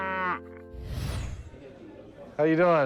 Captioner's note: mooing